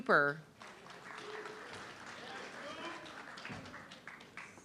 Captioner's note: audience clapping